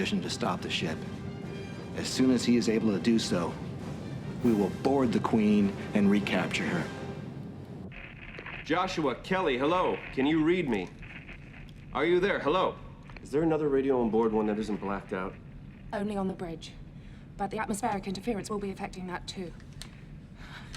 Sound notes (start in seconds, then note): 7.9 radio crackles